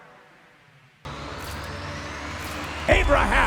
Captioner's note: upbeat music; film reel rewinding